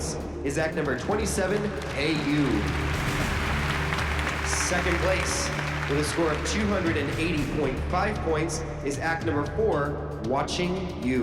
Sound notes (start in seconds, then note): 1.0 applause